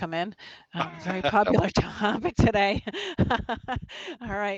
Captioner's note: laughs